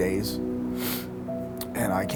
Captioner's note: sniffling